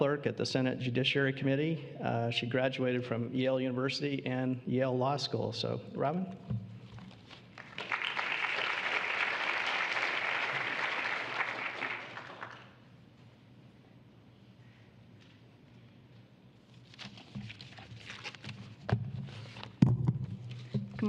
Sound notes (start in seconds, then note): 7.5 applause